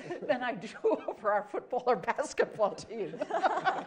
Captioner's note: laughter